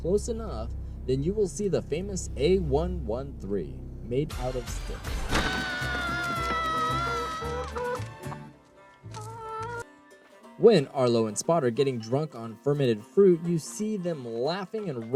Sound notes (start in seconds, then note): 5.3 screams